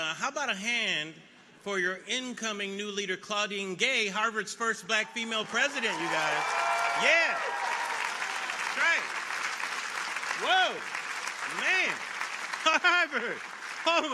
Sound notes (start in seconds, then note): 9.3 audience applauding